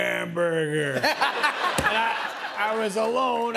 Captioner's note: laughter